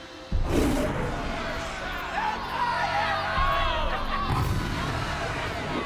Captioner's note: yelling and cheering